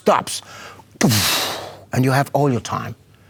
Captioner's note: mimics explosion sound